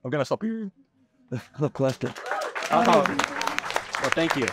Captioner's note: applause